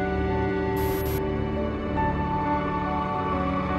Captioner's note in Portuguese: chiado